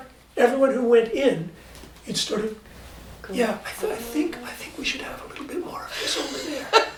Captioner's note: whispering